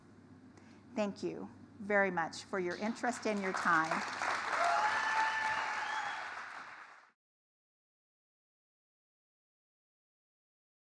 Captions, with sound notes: Thank you very much for your interest and your time. [Audience applauding]